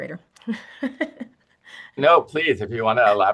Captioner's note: laughing